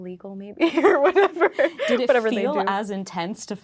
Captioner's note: laughing